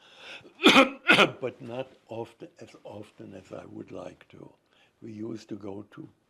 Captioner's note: coughing